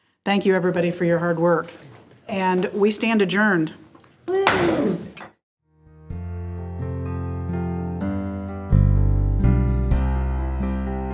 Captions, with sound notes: Thank you everybody for your hard work, and we stand adjourned. (gavel whacks) - Woo. (calm band music)